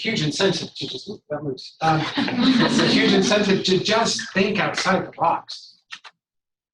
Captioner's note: laughter